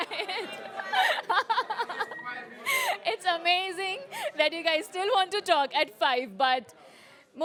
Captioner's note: laughs